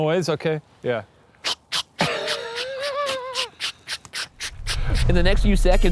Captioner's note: mimicking a spirit box buzzing